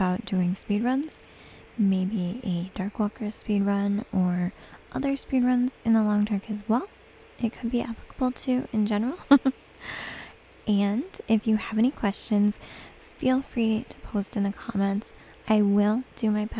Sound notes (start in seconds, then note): 4.9 giggles